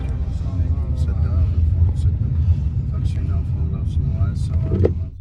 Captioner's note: Arabic